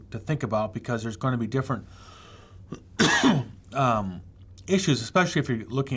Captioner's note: coughs